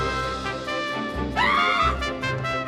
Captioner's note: valerie screams